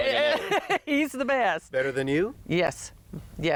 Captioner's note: deep laughter